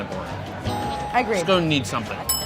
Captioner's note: bell dinging